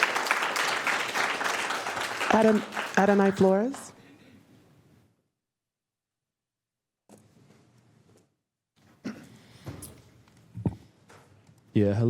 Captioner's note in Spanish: Aplausos